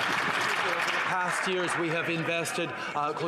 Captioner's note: some Applause